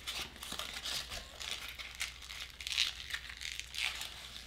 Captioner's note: crumpling paper